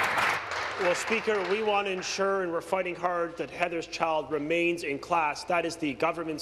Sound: applause

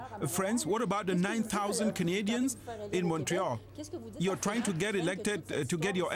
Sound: speaking french

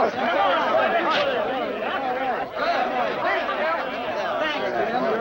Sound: crowd chatting excitingly

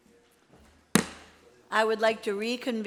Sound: banging

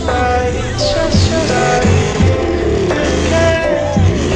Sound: engine roaring

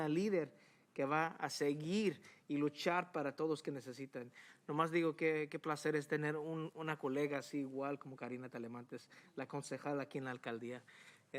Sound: speaking spanish

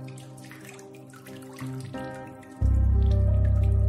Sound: water trickling

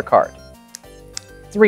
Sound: card slaps

